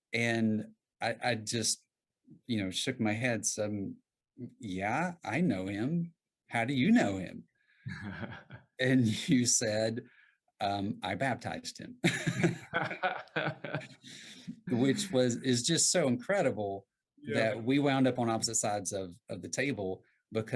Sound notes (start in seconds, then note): 7.9 chuckles; 12.0 laugh